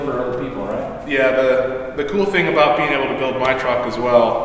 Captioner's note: voiceover